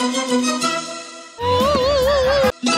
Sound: falsetto

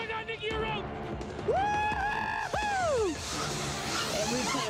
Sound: excited shouting

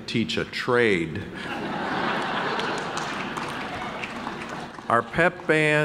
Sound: audience laughing

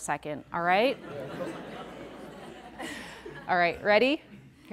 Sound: audience laughing

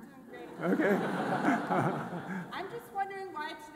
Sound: all laughing

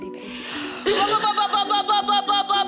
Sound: coughing

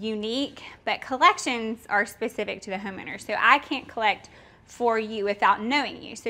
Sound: none

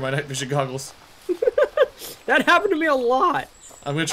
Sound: laughs

